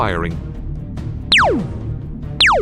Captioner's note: zap